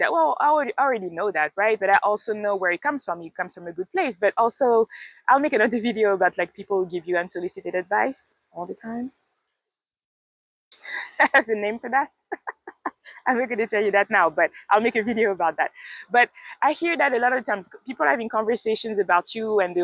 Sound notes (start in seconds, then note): 9.3 laughs